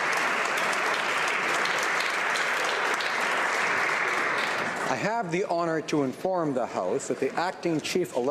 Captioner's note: some Applause